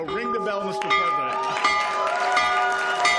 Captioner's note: bell ringing; cheering